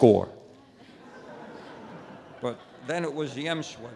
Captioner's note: light audience laughter